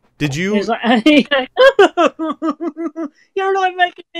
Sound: laughing

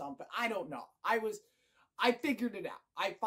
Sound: short breath

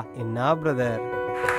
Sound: everyone claps

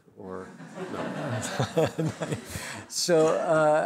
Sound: laughter

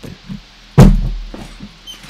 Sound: bang

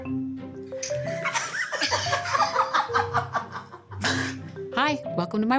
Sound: giggling

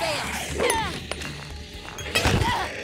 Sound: growling

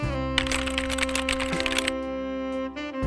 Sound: typing sounds

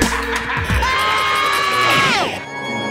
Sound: evil laughter; screaming

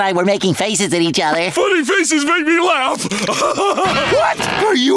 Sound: laughing

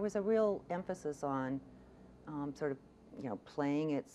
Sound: none

